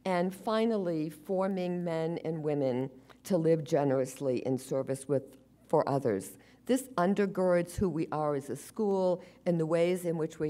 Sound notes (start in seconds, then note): none